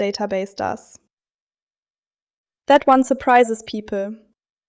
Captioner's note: pause